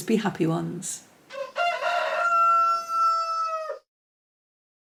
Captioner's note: rooster crowing